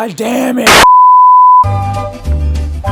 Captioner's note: TV lost signal